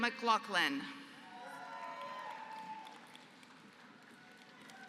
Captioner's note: applause